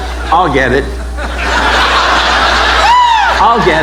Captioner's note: audience laughing